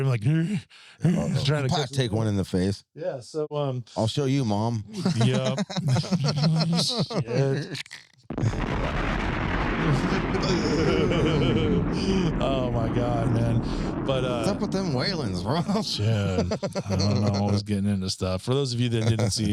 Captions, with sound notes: every like, you know, every 150 or something like that. Ooh. Very nice. So it's very like, Plack take one in the face. Yeah. I'll show you mom. Yep. (laughing) (engine revving) Oh my God, man. What about them whalings, Rob?